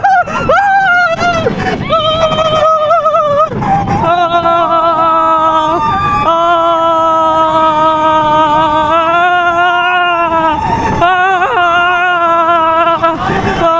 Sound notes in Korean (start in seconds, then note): 0.2 갑자기 도파민 폭발해 목소리 변조; 3.9 다시 원래의 목소리로 비명 지르기